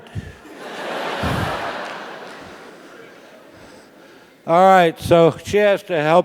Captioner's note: laugh